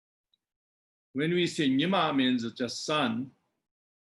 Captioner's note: tibetan